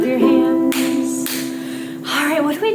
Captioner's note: hands clapping